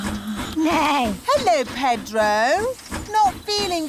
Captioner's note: neighs